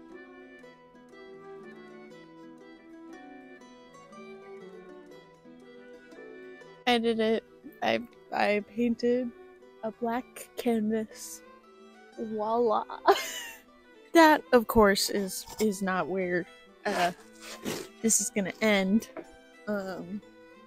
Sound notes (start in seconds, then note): 13.0 laughter